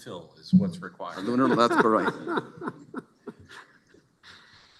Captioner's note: laughter